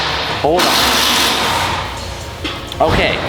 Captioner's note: power tools whirring